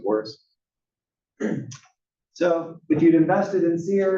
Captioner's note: cough